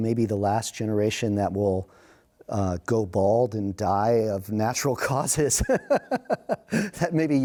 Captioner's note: laughs